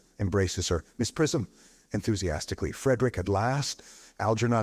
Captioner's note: enthusiastically